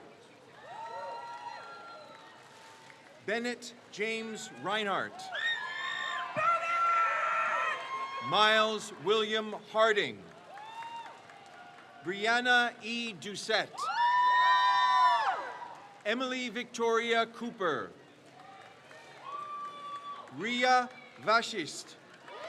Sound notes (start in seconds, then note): 0.0 crowd cheers; 5.5 crowd cheers; 10.4 crowd cheers; 14.5 crowd cheers; 18.1 crowd cheers